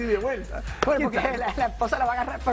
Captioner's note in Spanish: risas